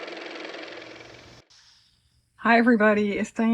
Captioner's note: car motor